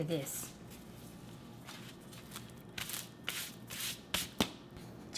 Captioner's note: plastic sounds